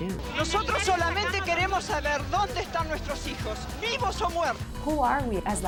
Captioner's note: speaking spanish